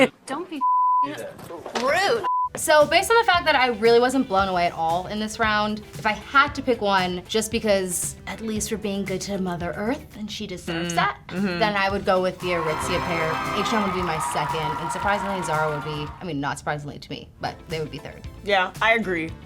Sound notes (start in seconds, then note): 0.0 laughs; 2.2 color bars beeping; 12.4 fake audience cheering; 12.4 fanfare playing